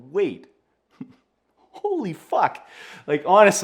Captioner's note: chuckles